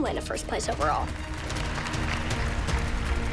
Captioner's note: applause